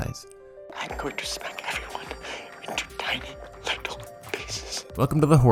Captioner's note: mysterious man, whispering